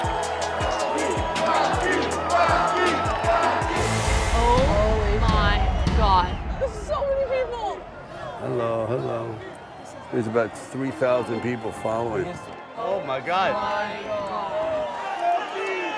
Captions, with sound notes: (chanting) - Oh my God, there's so many people. - Hello, hello. There's about 3,000 people following. Oh my God.